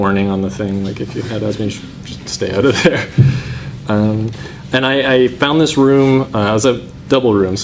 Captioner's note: laughs